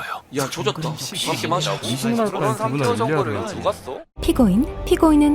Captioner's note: Crowd murmuring that Lee Sin is a bad champ as a jungler